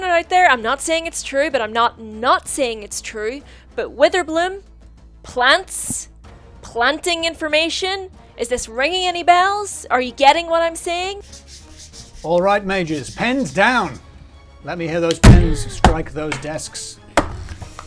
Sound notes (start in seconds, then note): 11.2 pen rasping; 15.1 pens bumping